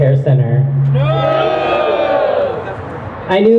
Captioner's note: crowd booing